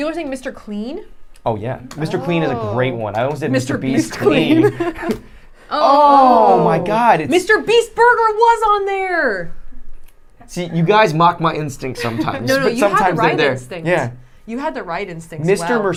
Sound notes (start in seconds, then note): 3.9 laughing